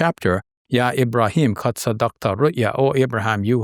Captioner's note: speaks a foreign language